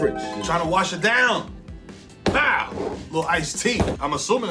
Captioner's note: harp shimmers; bottle thuds